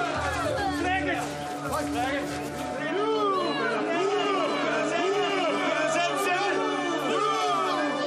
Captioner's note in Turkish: Bağrışmalar yükselir